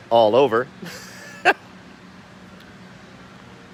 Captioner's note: laughs